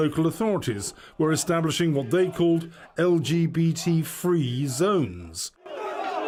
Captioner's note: crowd chanting in polish